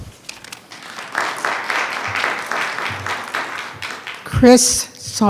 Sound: attendees clapping

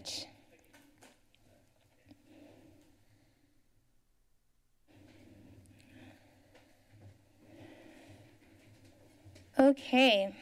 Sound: pause

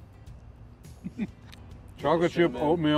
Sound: chuckles

